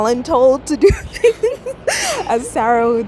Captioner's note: giggling